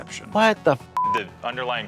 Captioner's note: beep